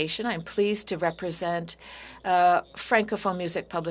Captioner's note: speaking french